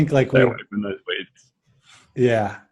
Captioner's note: garbled due to signal breakup